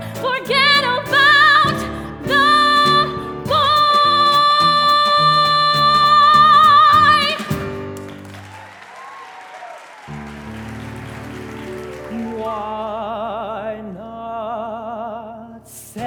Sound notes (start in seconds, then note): 7.8 audience applause